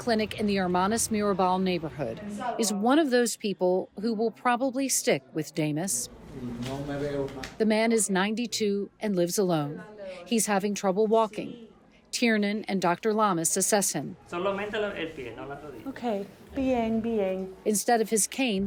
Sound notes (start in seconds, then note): 14.4 speaking in foreign language